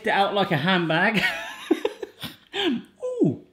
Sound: laughing

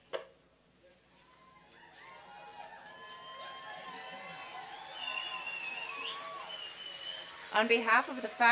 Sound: applause and cheering

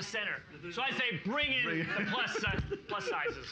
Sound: giggling

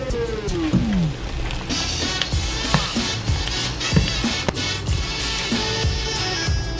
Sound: pouring and chopping

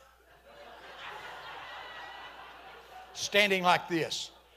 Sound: congregation laughing

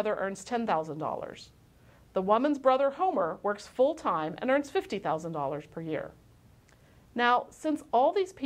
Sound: click

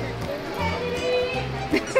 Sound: crowd

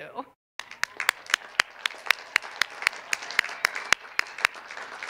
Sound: cheers and applause

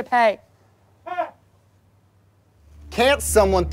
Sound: single laugh

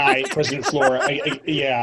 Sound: laughs

